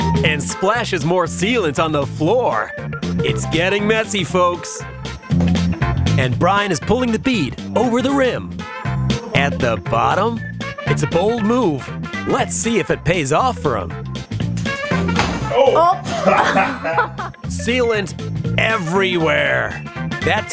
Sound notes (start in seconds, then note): 13.9 tire popping; 15.5 people laughing